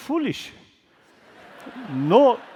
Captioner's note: laughter